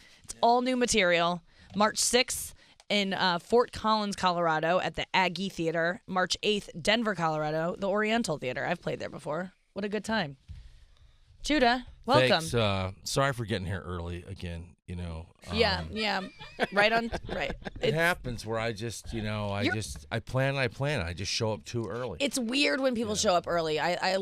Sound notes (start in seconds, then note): 15.4 laughing